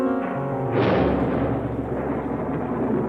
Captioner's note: thunder